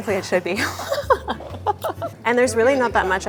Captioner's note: laughs